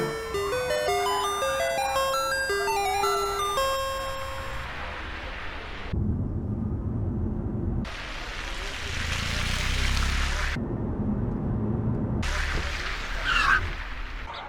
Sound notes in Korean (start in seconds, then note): 0.0 학교에 종소리가 울린다; 3.0 차가 들어오는 소리가 들린다; 13.1 차가 끼익하고 멈춘다